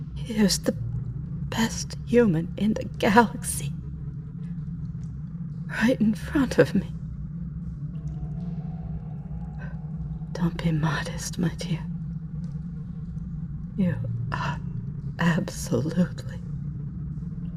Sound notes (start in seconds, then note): none